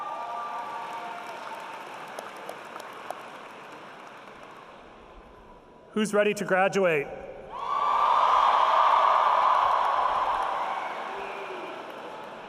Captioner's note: cheering